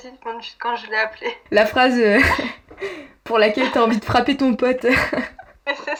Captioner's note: laughs